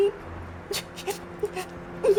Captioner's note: cries